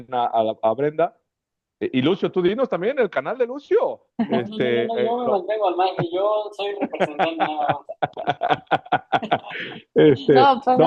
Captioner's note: risas